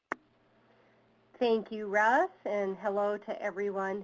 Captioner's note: voiceover